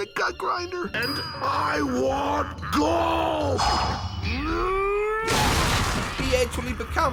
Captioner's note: Angry Gut Grinder Sounds